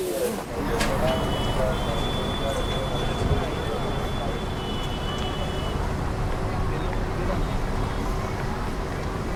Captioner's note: street sounds